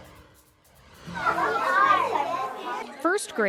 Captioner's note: cheerful music continues; children chattering